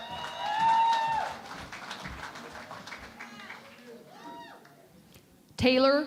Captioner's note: cheering and Applause